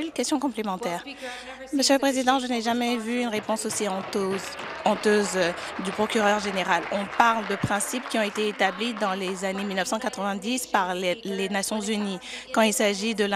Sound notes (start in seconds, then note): 8.9 applause